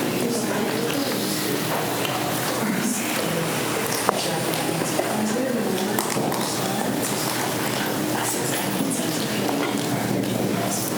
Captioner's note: students chatter